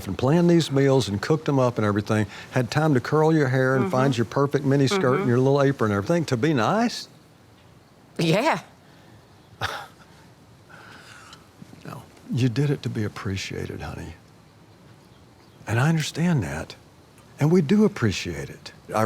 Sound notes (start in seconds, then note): 9.7 Tommy laughing